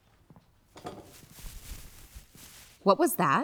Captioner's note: rustling sound to right